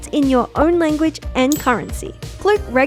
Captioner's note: coin chinking